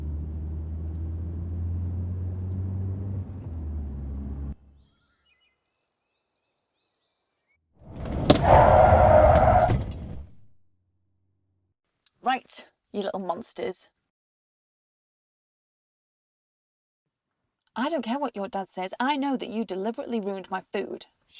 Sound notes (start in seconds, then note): 0.0 engine rumbling; 7.9 tyres screeching